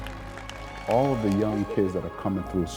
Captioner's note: audience applauding